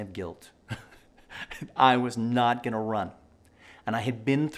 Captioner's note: laughing